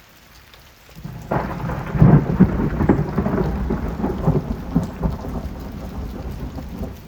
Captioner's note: thunder